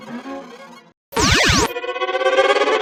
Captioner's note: zap!